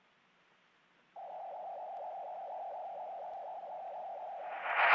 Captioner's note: magnetic humming